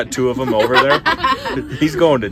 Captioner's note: group laughing